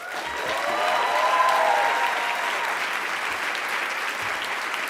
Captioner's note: audience applauds